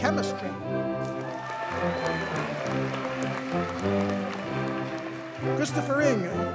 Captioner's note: audience cheers and applauds